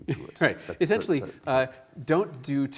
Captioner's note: chuckles